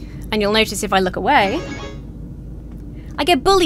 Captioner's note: alarm sounds